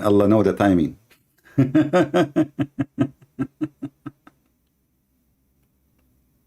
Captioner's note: Ketawa